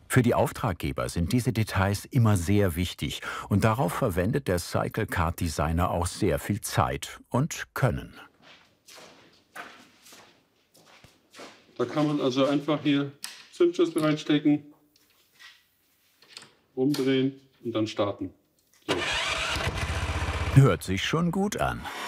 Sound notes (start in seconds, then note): 18.9 engine whirring